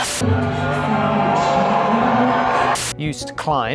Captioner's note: audience cheering; audience booing